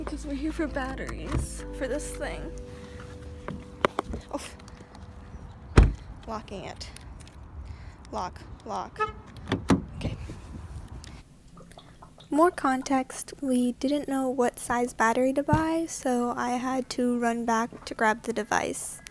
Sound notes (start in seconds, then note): 5.7 car door shuts; 8.6 car noise; 9.4 car handle noise